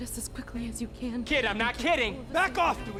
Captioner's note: woman continues to pray